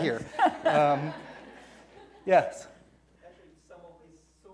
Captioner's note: laughing